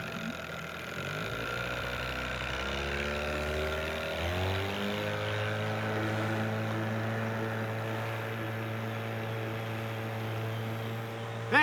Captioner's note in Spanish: Ruido de la lancha